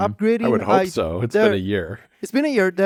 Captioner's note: laughs